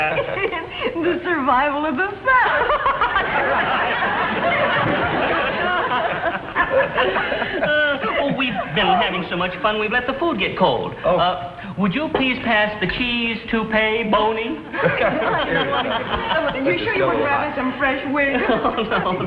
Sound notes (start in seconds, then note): 2.1 laughs; 2.5 Mr. Fuddy and Elizabeth laugh; 14.6 all three laugh